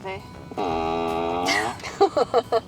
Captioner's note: farting sounds